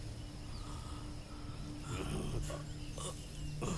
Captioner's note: Groans